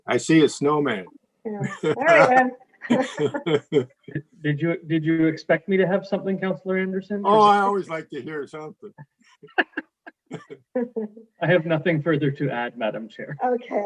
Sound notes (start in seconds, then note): 2.8 laughs; 9.5 laughs